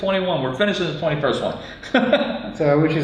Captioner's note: laughs